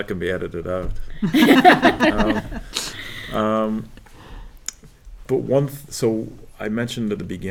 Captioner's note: laugh